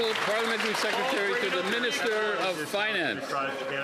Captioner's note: some Applause